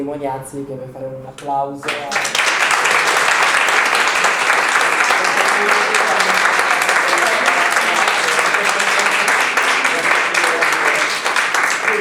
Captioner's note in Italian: Applauso